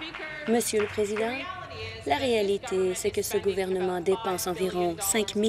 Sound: applause

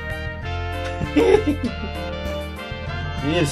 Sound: laughs gleefully

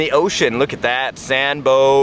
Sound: deep voice

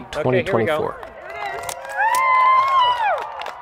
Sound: cheering; clapping

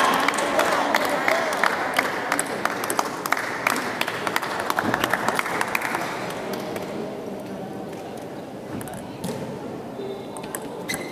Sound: applause

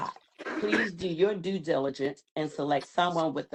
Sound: cough

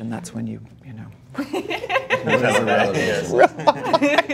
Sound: laughing

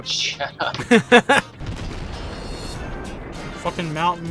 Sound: laughter

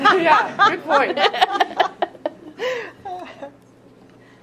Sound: all laughing

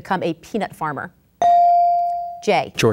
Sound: ding

